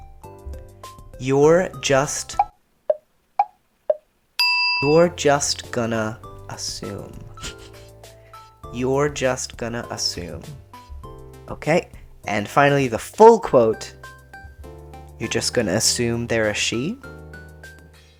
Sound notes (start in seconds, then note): 2.4 thinking tick-tock sound followed by a “ding!”